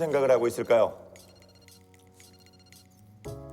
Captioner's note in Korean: 전화벨 소리